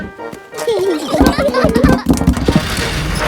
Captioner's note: children giggling